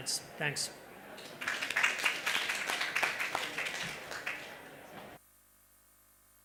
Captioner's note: applause